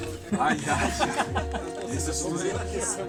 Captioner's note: laughing